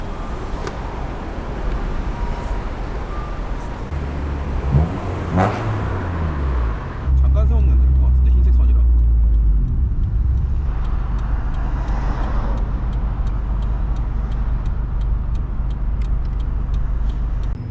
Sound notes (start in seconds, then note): 0.1 일본 특유의 귀여운 신호등 소리; 3.9 그리고 폭력적인 시빅 소리